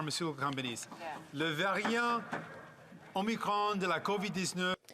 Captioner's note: speaking French